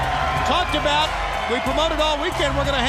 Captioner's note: crowd cheering